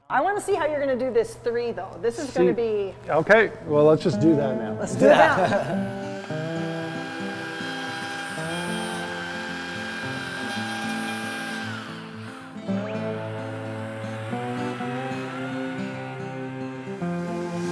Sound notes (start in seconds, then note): 6.5 saw whirring; 13.9 light music